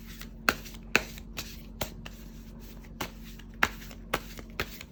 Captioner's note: drawing cards